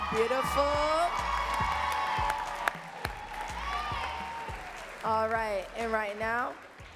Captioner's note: audience cheering and clapping